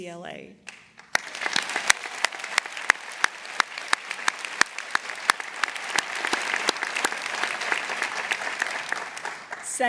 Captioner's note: applause